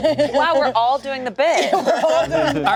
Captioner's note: group laughing